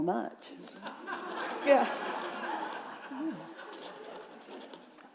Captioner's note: audience laughing